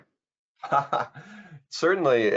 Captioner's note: laughs